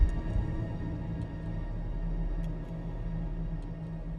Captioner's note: heartbeat thudding